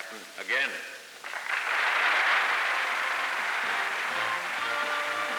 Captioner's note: applause and music